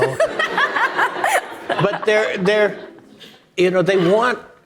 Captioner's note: audience laughing